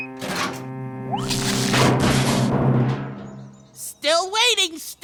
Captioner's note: none